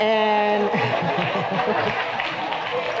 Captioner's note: laughter and applause